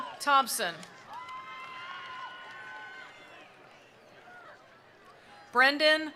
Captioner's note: attendees cheering; attendees applauding